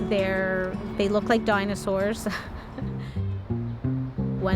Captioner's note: laughter